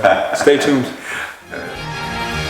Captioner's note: laughter